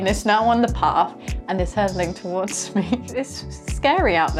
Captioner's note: chuckling